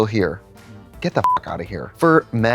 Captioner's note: beep